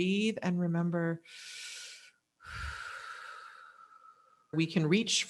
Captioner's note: deep breathing